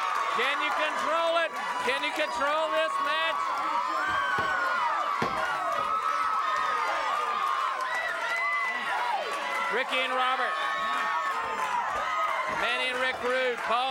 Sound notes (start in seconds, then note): 3.6 applause